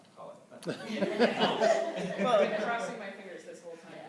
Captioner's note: laughter